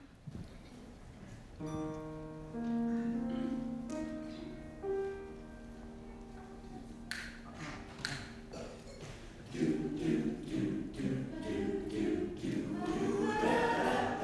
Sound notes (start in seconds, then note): 8.0 snapping; 9.2 choir singing